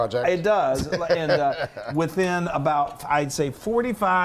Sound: laugh

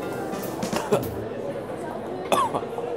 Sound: coughs

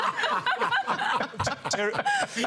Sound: laughter

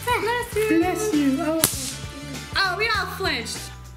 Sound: pop-it snaps

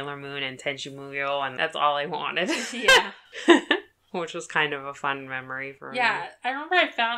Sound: laughs

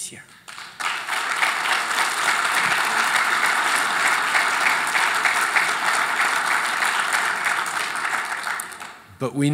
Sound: applause

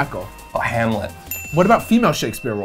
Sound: bell dings

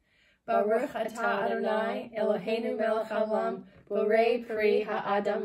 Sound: chants in foreign language

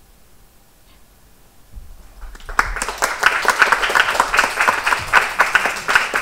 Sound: applause

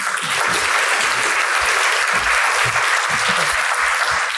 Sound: audience applauding

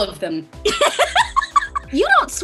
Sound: Andrea giggles

